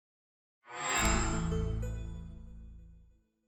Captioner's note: chime